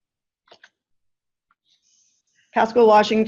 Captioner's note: clicking